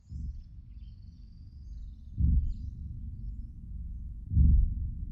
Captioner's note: slow indistinct rumbling